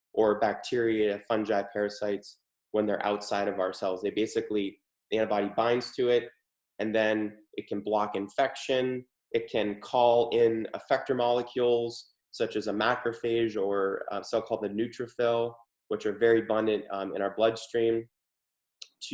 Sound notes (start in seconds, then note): none